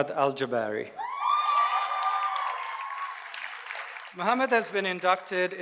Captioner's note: audience cheers and applauds